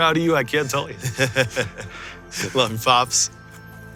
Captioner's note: laughs